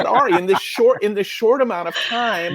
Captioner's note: laughing